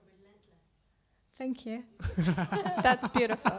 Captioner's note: laugh